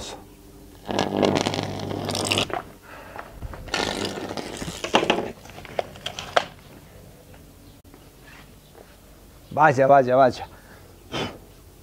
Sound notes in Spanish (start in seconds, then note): 0.8 Electric sparks